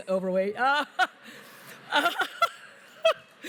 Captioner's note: laughter